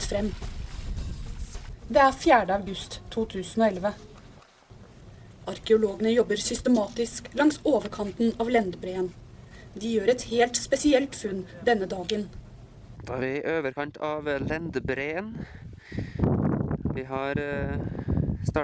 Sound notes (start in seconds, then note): 1.4 speaking in foreign language